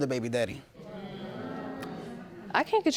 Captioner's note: audience reacting